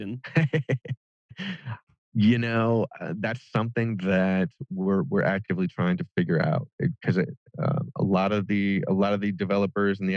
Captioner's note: laughs